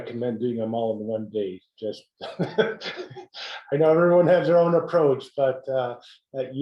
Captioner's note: laugh